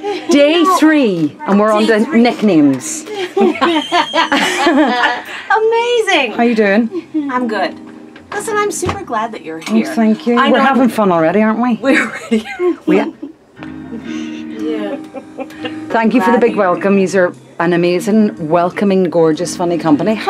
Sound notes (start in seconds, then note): 3.0 laughing